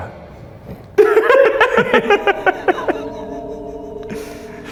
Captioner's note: laughing